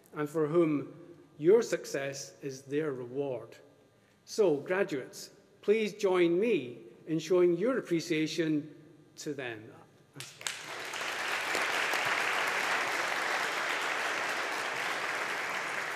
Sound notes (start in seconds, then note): 10.2 audience applauding